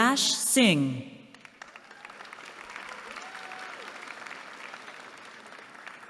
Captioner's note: applause